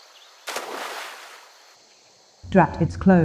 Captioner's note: splash